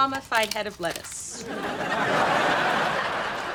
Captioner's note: laughs